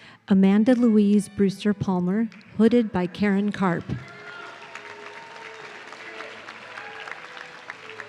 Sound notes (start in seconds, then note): 3.8 audience cheering